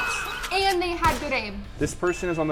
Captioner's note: gunshot banging